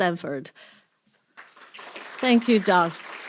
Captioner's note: applause